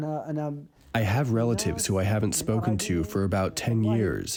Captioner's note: through translator